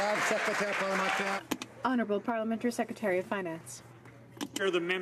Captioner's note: some Applause